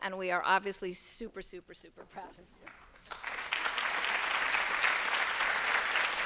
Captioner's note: applause